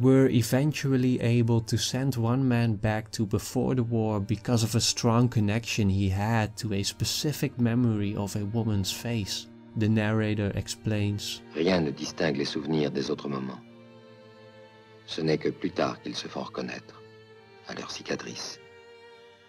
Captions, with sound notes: eventually able to send one man back to before the war because of a strong connection he had to a specific memory of a woman's face. The narrator explains "[French] Nothing distinguishes memories from ordinary moments." "Only later do they become memorable" "by the scars they leave."